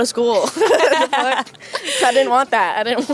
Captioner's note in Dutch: Gelach